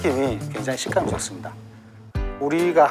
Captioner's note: gulp